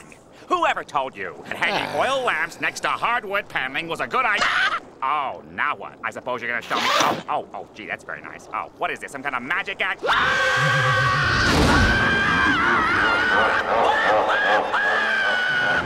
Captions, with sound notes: Whoever told you hanging oil lamps next to hardwood paneling was a good id- Ah! Oh, now what? I suppose you're gonna- Oh. Oh, gee, that's very nice. What is this, some kind of magic act? [screaming] [screaming] [laughing]